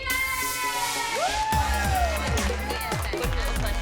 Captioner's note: whooping